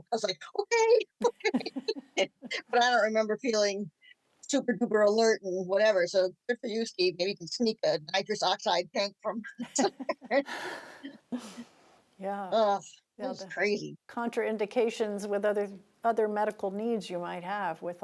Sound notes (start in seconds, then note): 1.4 both chuckling; 9.5 group giggling